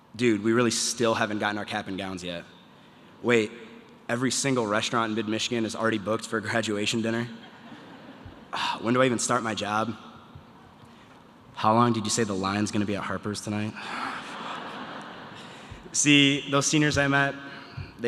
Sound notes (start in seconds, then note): 8.5 sigh; 14.0 sigh; 14.0 audience laughter